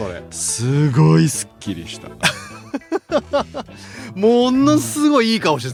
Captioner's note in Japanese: 笑い